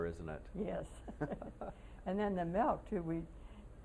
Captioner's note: laughter